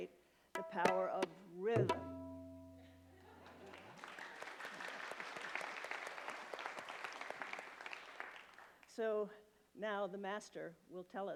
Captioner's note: applause